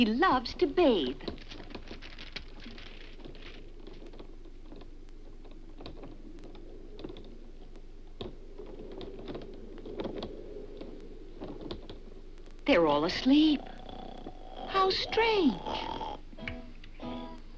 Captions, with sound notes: (umbrella crackles) (wind whistles) They're all asleep. (Dunderklumpen snores) How strange! (dramatic guitar music)